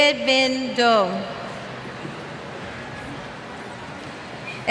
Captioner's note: cheers